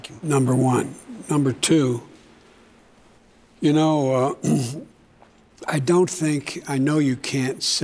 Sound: clears throat

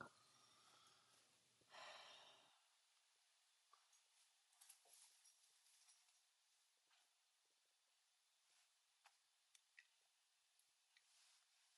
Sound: sigh

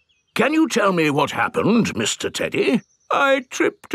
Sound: in teddy's voice; in normal voice; in teddy's voice

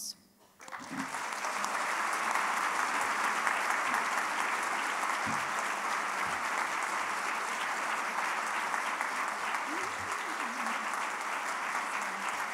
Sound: applause

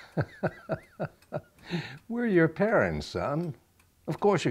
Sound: laughs

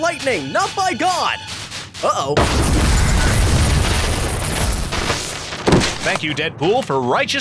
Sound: lightning zapping

